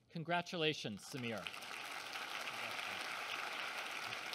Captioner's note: applause